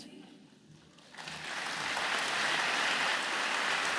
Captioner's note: audience clapping